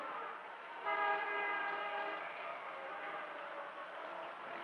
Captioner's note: horn honks